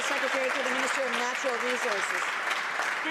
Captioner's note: some Applause